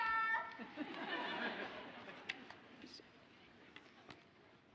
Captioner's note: audience laughs